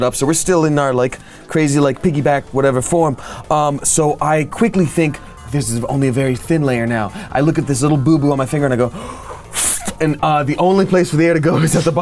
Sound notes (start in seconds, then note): 8.9 air hisses